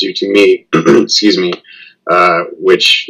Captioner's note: cough